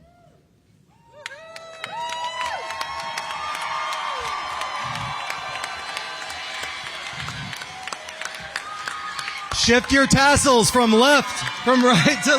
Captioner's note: applause